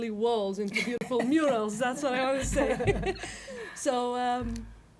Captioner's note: laughter